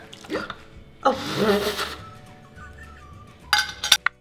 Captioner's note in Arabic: يضحك